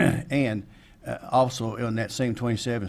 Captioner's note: clears throat